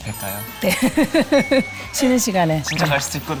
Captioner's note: just laughs